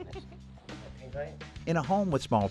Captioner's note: giggling